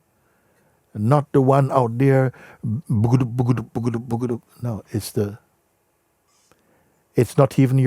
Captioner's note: makes galloping sound